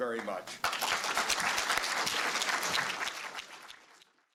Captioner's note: applause